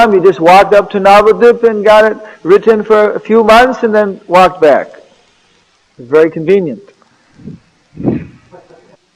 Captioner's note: laughter